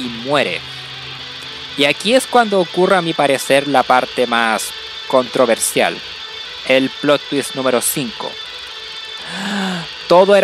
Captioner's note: inhales